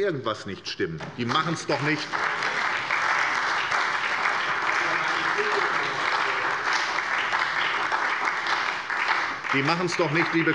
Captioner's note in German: Beifall bei der SPD